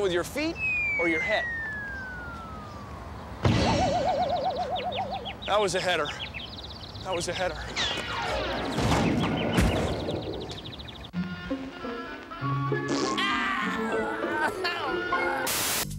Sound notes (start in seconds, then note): 3.4 cymbal crashes, birds chirping; 7.6 crash, birds chirping; 13.2 crying